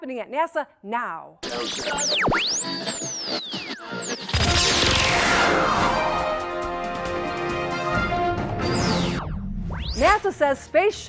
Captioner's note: sound Effects